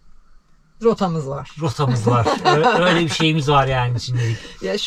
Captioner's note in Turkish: kahkaha